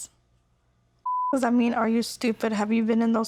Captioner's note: beep